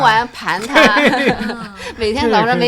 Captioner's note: laughter